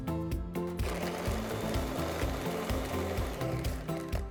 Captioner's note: blender whizzes